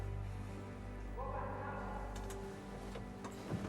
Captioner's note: shouting continues